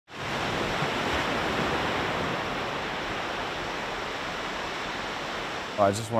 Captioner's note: ocean noise